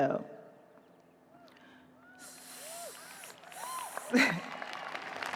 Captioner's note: audience cheers, applauds; chuckles